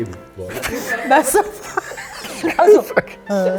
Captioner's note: laughter